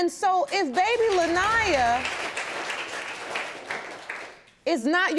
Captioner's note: audience clapping